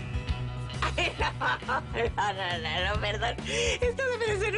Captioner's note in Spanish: Risas